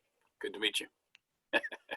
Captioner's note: laughs